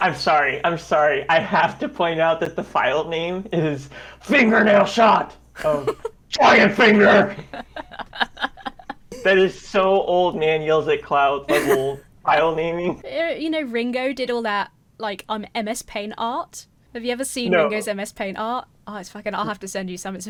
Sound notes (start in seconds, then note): 7.1 laughs